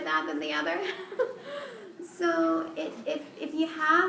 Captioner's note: laughter